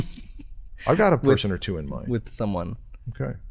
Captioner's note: chuckles